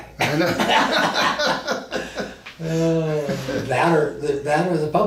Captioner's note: both men laugh